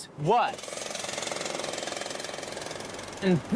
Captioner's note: construction tools clattering